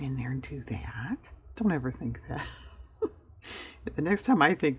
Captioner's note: laughs